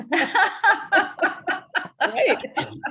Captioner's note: laughs